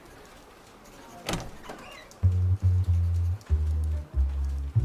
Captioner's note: crowd sounds, Door opens